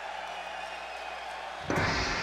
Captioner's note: crowd cheering